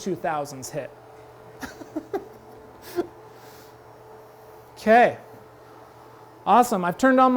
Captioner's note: laughs